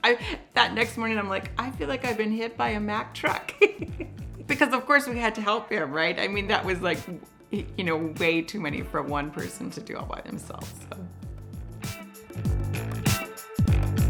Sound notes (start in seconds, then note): 3.4 laughs; 11.4 upbeat music